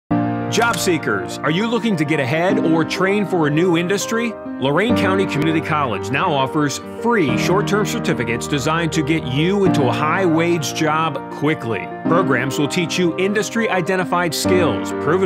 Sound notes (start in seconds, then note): 0.5 door opens